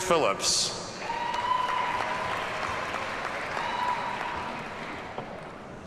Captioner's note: audience cheers and applauds